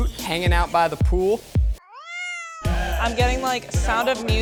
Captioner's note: meows